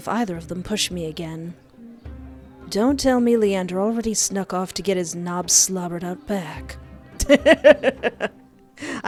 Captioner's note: laughter